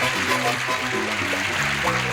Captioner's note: applause